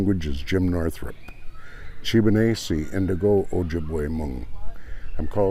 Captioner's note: speaking ojibwe